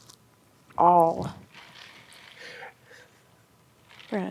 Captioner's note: ice cubes rattling